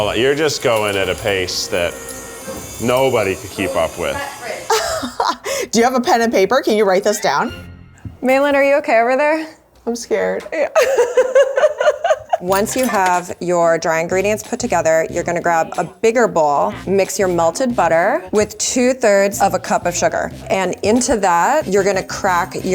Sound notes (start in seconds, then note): 4.4 laughs; 10.6 laughs